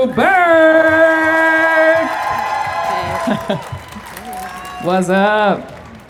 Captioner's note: crowd cheering